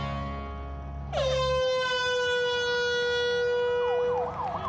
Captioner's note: horn blows